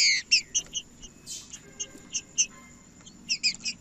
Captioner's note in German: trinca ferro cantando